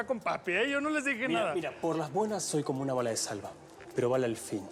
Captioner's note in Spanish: none